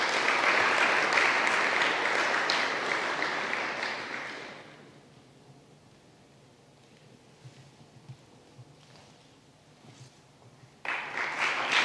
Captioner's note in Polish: oklaski